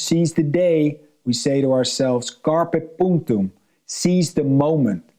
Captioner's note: speaks in foreign language